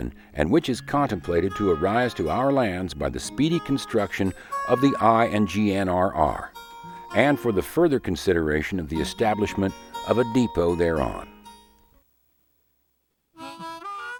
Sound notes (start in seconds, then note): none